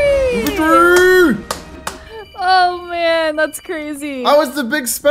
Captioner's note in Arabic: تصفيق